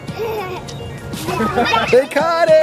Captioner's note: children laugh